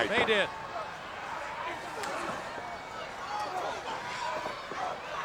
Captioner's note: crowd yelling